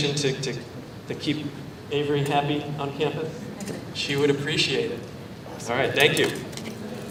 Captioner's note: none